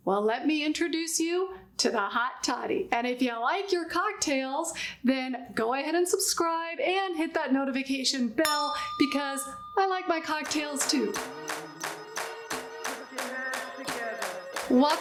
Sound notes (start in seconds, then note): 8.7 ding; 10.4 upbeat clapping music